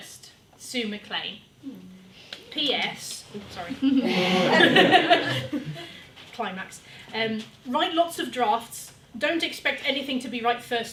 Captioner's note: laughter